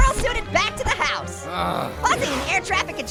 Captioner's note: Pear groaning